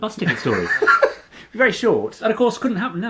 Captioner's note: laughing